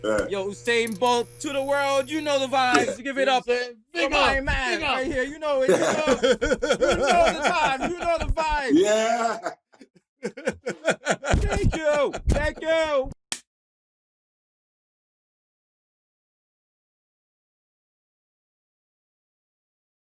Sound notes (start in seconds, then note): 3.8 shouting; 10.2 laughter